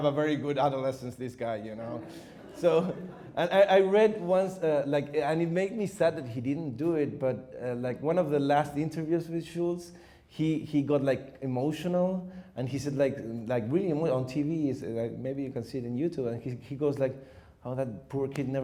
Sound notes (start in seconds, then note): 1.9 audience chuckles